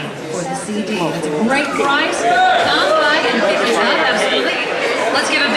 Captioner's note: crowd applauding